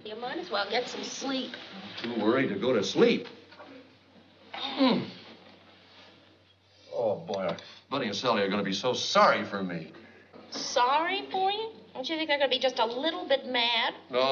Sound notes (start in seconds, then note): 4.6 grunts